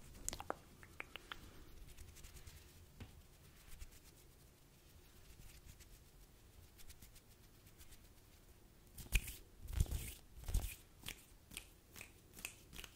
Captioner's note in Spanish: Sonidos de manos